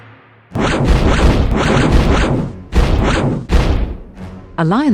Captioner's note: multiple laser blasts